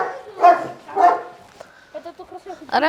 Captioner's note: dog barking